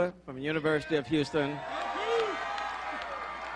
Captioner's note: applause